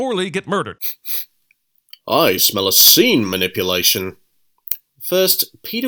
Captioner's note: sniff sniff